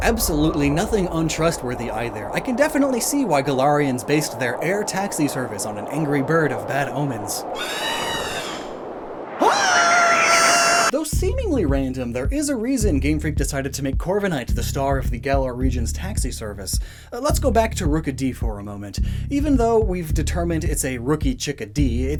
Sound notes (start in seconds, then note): 10.9 caw!; 10.9 screaming